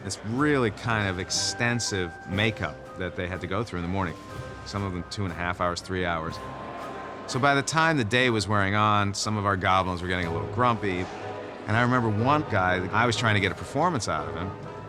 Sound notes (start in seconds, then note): none